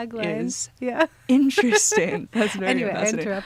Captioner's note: laughs